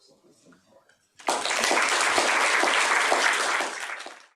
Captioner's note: applause